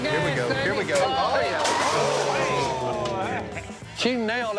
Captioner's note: all gasping